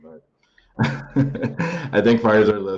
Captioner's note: laughs